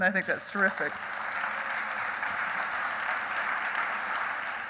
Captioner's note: applauding